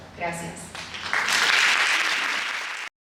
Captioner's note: applause